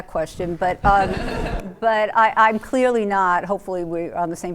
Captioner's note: laughter